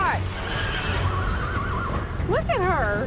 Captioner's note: horses whinnying